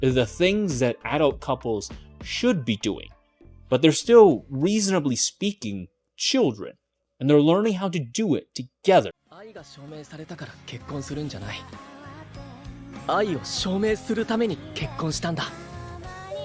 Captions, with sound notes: the things that adult couples should be doing, but they're still, reasonably speaking, children, and they're learning how to do it together. (speaking in foreign language)